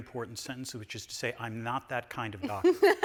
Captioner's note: laughing